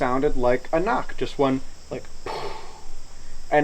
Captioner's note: knocks